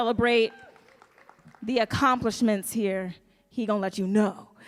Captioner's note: audience cheering